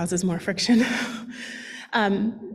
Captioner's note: laughs